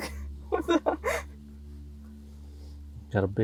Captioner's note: laughing